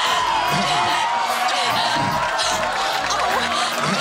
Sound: cheering; applause

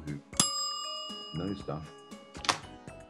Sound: timer dings

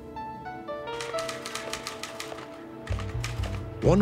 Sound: typing

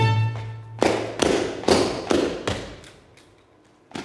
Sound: feet stomping

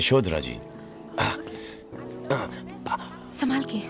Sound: groans

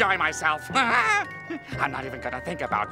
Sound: chuckles

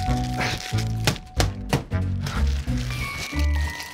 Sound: lettuce crunching; fist banging; lettuce continues crunching

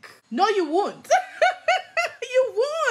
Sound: laughs

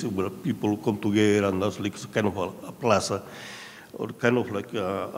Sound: speaking in a foreign language

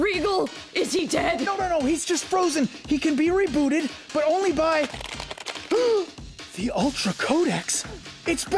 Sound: gasp

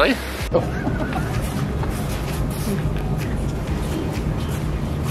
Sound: laughs

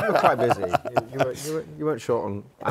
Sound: laughter

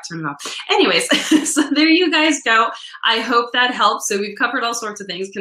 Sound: laughs

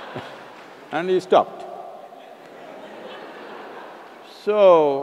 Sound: laughter; laughter

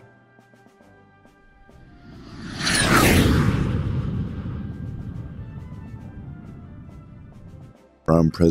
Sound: jet Whoosh Sounds

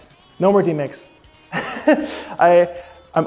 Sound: chuckling

